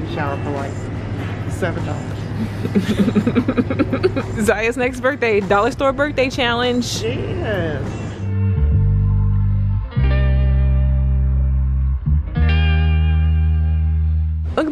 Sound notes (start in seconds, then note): 2.4 laughing; 7.2 mellow music